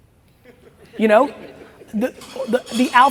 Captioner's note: audience chuckles